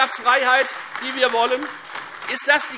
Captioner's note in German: Beifall Freie Demokraten und AfD